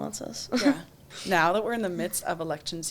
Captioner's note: chuckles